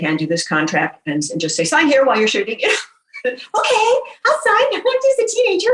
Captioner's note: in a squeeky voice